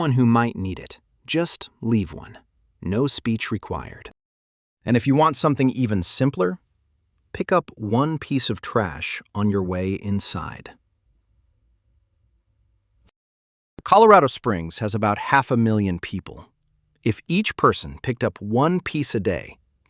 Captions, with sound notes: And if something from this series stuck with you — that's probably your lane. Thanks for listening. I'll do my best to interpret local government each week. [pause] You just get home safe. THE DAIS · storyseedstudios.com · Episode 004 · Not affiliated with El Paso County